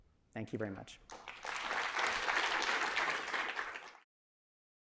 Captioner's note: applause